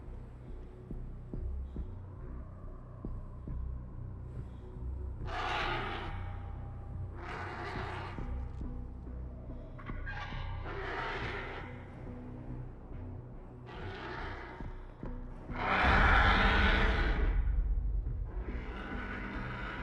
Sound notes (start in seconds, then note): 15.5 intense roar